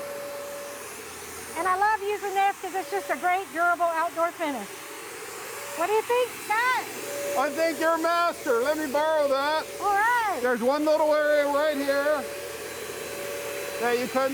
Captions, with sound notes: And I love using this, because it's just a great durable outdoor finish. What do you think, Scott? - (yelling over sprayer) I think you're a master. Let me borrow that. - All right. - There's one little area right here